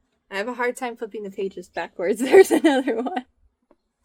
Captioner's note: laughs